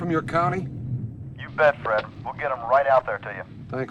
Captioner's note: voiceover